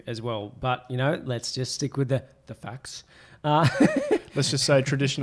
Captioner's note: laughs